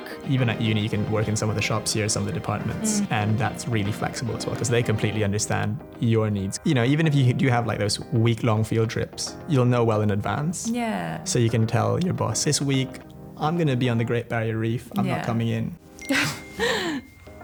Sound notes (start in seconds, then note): 16.0 ping